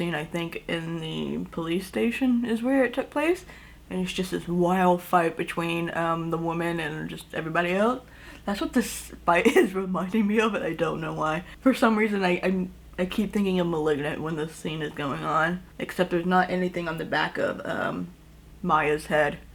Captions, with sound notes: I think, in the police station is where it took place. And it's just this wild fight between the woman and just everybody else. That's what this fight (laughs) is reminding me of. And I don't know why. For some reason, I- I keep thinking of Malignant when this scene is going on, except there's not anything on the back of, uhm, Maya’s head.